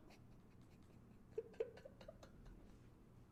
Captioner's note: laughs